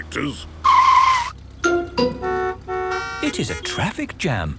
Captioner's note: tires screeching, horns honking